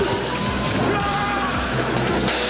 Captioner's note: screaming